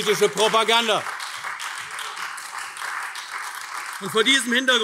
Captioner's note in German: Beifall AfD